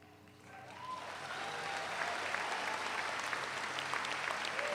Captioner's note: all applaud